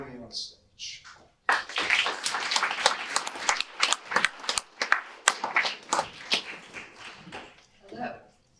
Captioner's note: audience applause